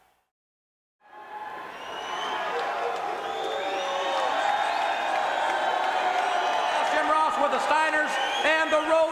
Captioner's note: crowd cheering